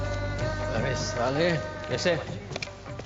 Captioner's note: motor whirs; speaking foreign language